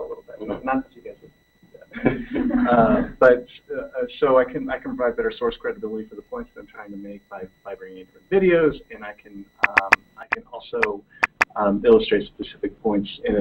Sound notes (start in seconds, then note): 1.8 laughter